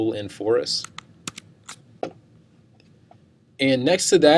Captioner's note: mouse clicking